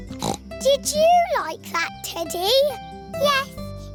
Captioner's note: snorts